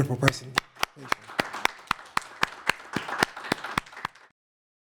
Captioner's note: applause